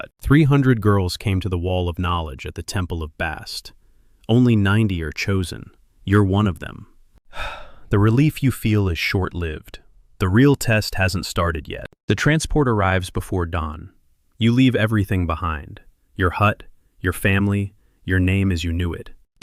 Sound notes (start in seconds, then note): 5.3 excited; 7.3 sighs